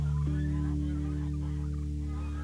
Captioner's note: birds, insects